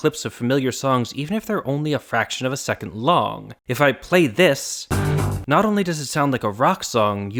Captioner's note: bang